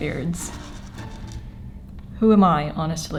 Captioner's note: hair clips rustle on table ASMR